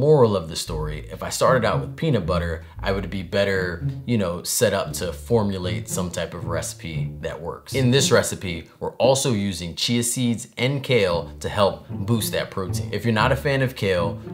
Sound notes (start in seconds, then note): none